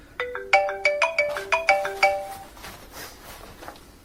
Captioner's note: Mike's cellphone rings